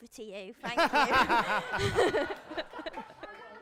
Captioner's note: laughter